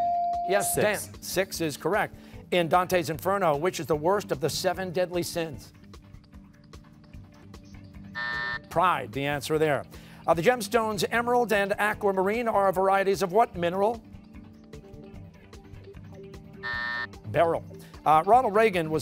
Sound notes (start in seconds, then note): 8.1 buzzer; 16.6 buzzer